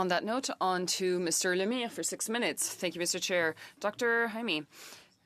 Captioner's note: speaking French